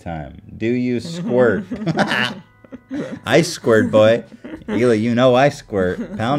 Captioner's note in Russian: смеётся